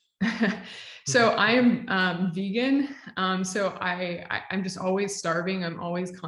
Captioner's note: chuckles